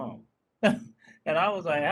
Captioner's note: laughing